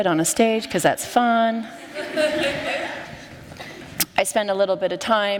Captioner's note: laughter